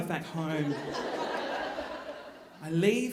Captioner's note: audience laughing